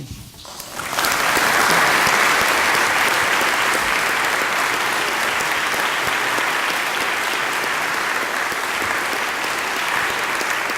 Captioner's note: applause